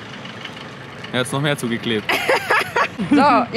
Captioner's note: both laugh